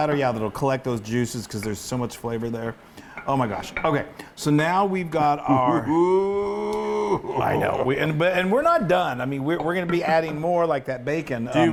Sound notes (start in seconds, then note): 5.5 laugh